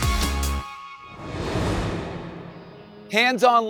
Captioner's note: upbeat music; air whooshing